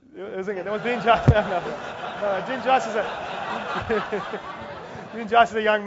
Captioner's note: laugh